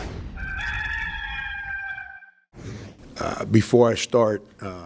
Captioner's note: rooster crowing